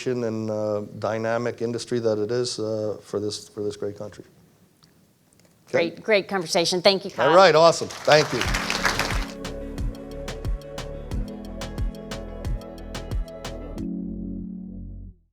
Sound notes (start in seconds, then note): 7.3 audience applauds; 11.9 mellow upbeat music